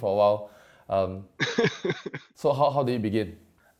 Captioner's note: iaughs